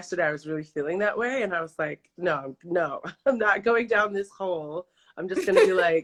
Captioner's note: laughs